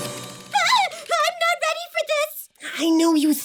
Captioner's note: ominous music; yells